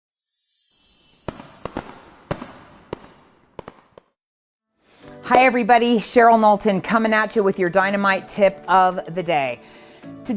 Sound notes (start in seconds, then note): 0.2 fairy dust sound effect; 0.4 fireworks sound effect